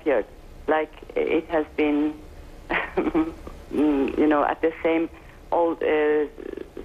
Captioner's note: chuckles